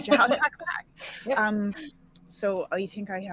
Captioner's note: laughing